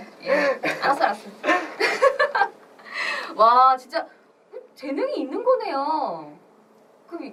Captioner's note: laughs